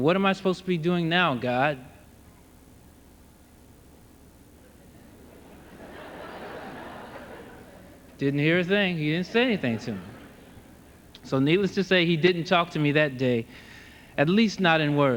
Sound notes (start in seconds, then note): 7.0 laughter